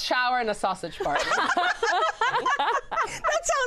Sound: laughter

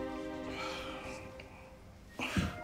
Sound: deep sigh

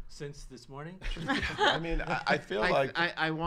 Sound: laughs

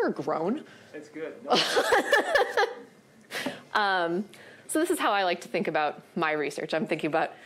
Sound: laughs

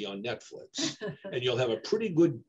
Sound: laughs

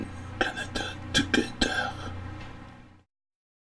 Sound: whispering

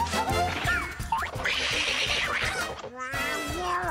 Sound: quacks angrily

